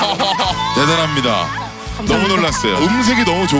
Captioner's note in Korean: 감탄